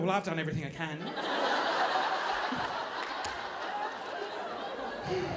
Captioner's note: audience laughing